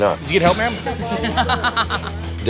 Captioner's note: laughs